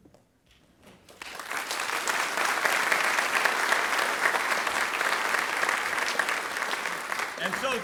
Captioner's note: applause